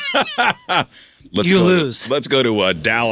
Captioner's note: laughing